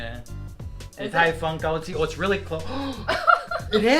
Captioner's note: gasp